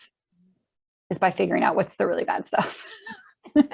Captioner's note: chuckles